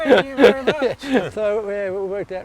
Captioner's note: laughs